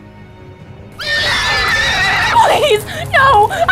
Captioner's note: Katanah neighing